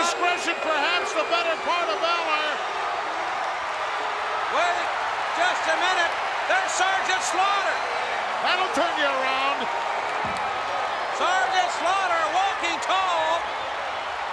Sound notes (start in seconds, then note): 4.5 crowd cheering